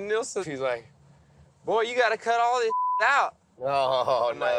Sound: beep

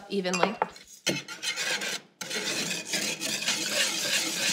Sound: whisk scrapes

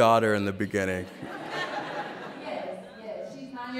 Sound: laughter

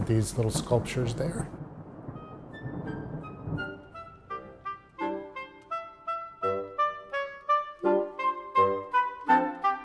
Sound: thunder

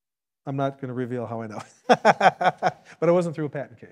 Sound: laughs

